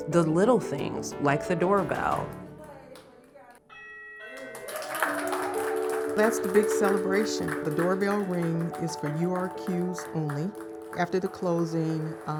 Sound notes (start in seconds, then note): 3.7 bell dings; 4.8 group claps